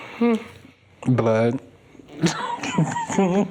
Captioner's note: chuckles